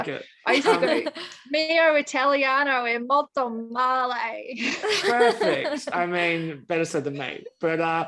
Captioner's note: speaks Italian